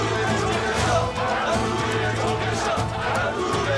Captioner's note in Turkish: Hep bir ağızdan